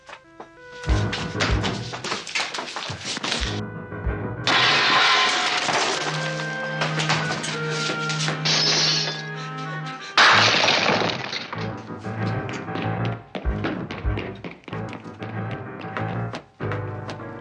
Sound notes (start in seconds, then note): 4.4 glass shattering